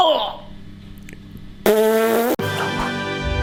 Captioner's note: spits